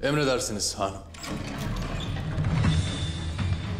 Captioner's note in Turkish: Kapı Sesi